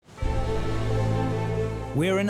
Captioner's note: waves crash; dramatic music